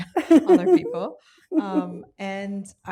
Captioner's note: laughs